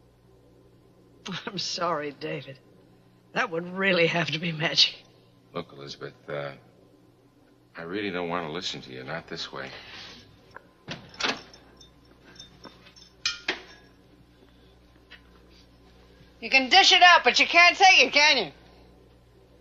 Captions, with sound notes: I'm sorry David, that would really have to be magic. - Look Elizabeth, I really don't wanna listen to you, not this way. (door opening) (glass clinking) - You can dish it out but you can't take it can you?